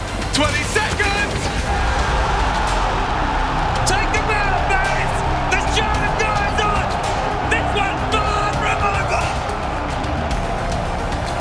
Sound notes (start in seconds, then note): 1.0 gun firing; 1.7 crowd cheering